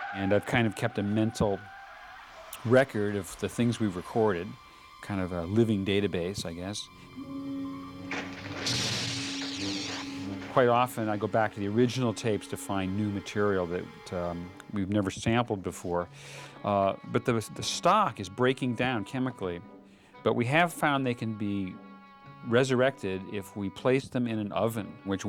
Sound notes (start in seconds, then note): 8.3 electricity Crackling, Humming